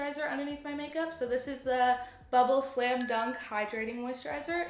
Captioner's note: ding